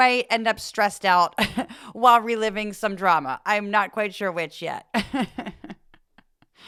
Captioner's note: laugh